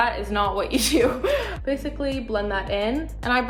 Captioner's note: laughing